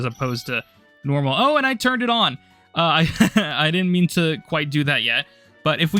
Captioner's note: laughter